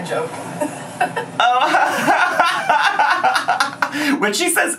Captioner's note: fake laughing